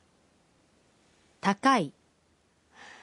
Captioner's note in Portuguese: em japonês